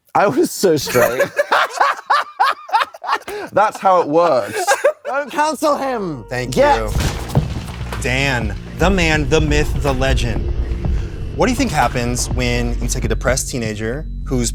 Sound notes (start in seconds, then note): 0.8 both belly laughing; 4.7 laughs